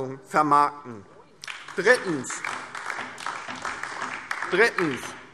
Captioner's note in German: Beifall DIE LINKE und vereinzelt SPD